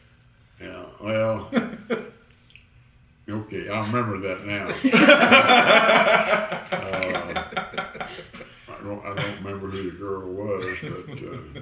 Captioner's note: laughter